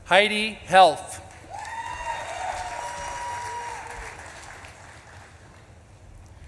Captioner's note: audience claps and cheers